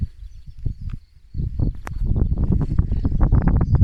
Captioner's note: chirping crickets